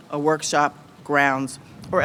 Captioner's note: none